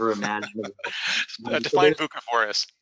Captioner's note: laughs